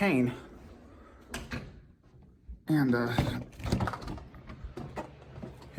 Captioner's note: door closes and door opens